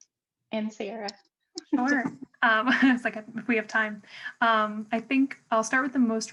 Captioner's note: laughter